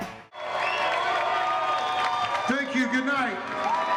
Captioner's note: cheers and applause